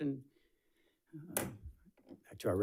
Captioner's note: gavel bangs